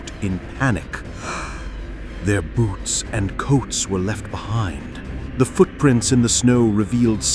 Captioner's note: horrified gasp